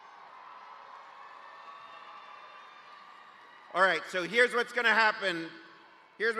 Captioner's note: cheers and applause